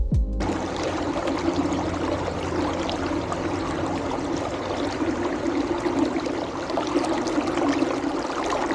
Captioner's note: water running